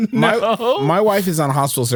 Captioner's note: laughs